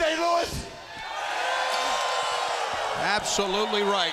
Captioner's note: crowd cheers